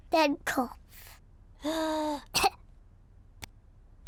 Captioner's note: breathes deeply and coughs